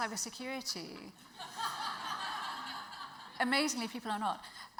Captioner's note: audience laughs